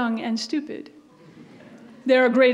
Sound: audience laughs

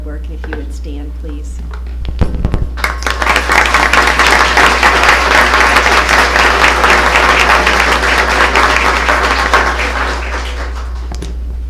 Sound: applause

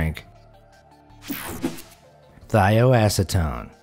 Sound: image whooshing

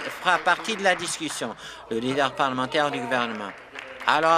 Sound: applause

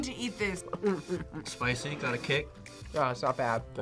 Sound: laughs

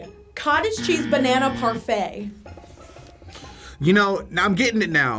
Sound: buzzer buzzing

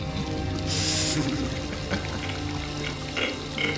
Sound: chuckles

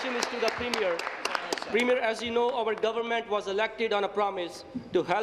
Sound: applause

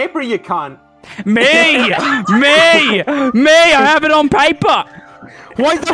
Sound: group laughter

